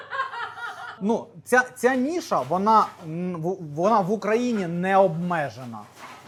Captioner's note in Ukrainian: сміх